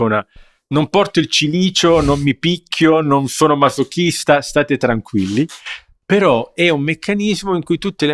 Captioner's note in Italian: sbuffare